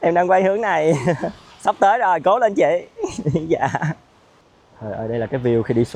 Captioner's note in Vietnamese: tiếng cười